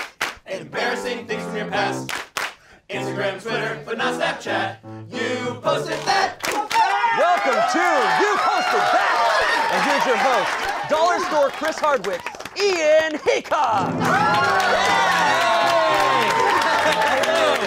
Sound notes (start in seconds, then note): 0.0 clap, clap; 6.4 clap, clap; 14.0 cheering, clapping